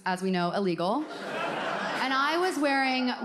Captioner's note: audience laughs